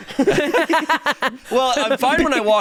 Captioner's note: hosts laughing